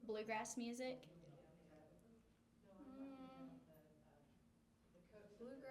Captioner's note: background talking